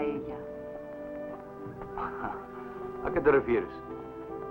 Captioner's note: chuckles